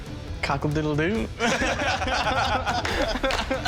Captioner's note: laughter